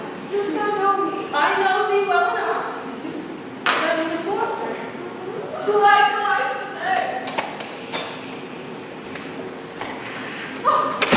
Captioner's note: door opens offscreen